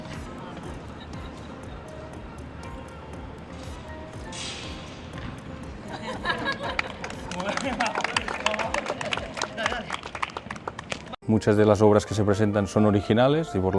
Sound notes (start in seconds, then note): 5.9 laughs; 6.7 claps